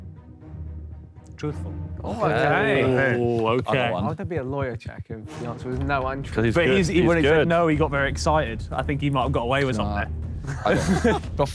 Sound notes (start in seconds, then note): 0.0 dramatic music; 2.1 Sidemen cheer